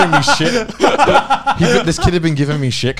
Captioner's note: laughing